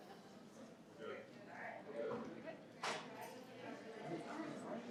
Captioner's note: participants chatter